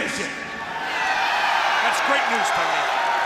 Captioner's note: crowd cheering